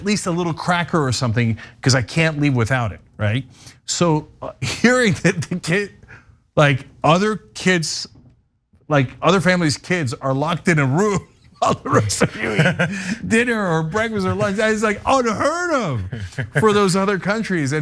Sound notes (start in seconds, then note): 5.2 laugh